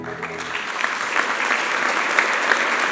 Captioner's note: applause